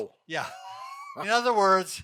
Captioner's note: laughing